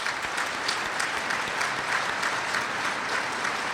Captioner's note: applause